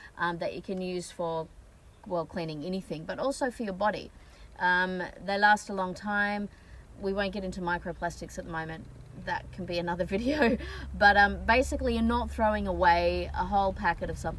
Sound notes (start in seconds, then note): 10.2 scoffing